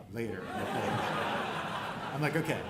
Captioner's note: audience laughing